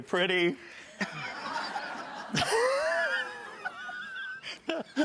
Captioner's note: audience laughs